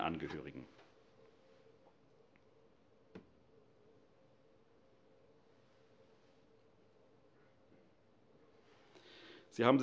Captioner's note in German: Schweigeminute